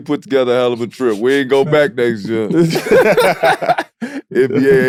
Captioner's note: laughs